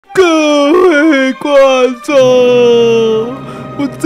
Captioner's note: sob